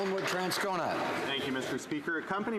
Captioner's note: some Applause